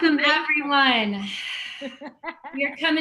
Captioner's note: laughing